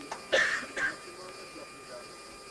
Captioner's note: cough